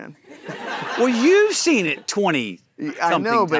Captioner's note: audience laughing